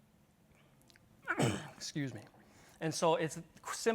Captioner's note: coughs